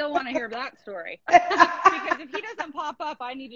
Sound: laughing

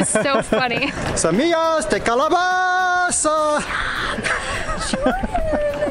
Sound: yelling; laughter

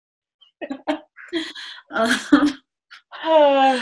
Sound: laughing

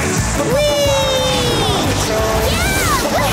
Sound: cheering

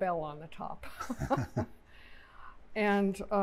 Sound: laughter

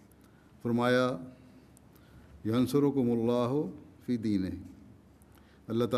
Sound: Arabic

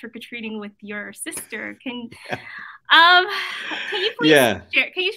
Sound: laughs

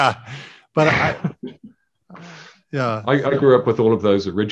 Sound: laughing

